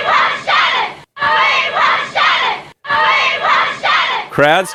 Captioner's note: crowd chanting “ we want ”